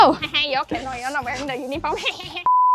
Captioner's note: evil laughs; laughs